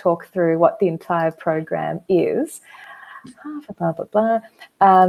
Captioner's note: humming